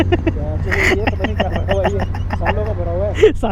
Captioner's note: laughing